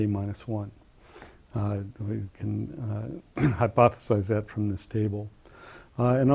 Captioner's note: cough